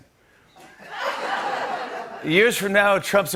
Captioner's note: laughter